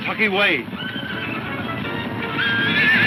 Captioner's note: horses neighing